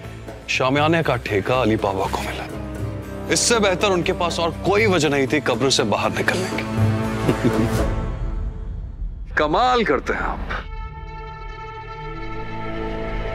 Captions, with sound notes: for the royal marquee be given to Ali Baba! He had no better reason to crawl out of his grave! Really! [giggling] You are unbelievable!